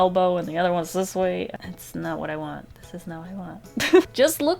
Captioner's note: laughs